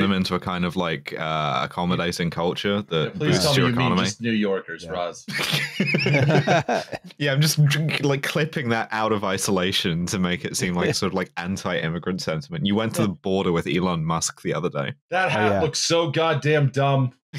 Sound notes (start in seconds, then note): 5.2 laughter